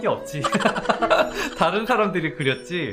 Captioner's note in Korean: 웃음 소리